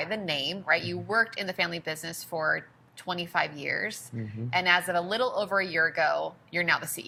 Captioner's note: mm-hmm